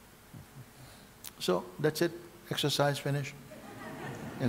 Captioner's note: γέλια